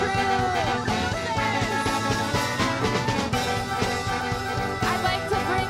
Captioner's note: speaking in Spanish